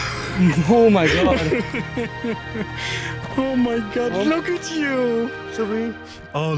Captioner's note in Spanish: Risas